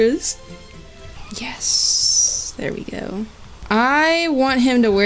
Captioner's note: whispers